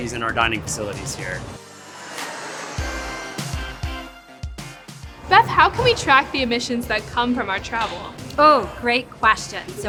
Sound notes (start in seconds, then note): 2.5 airplane roaring; 4.0 bright music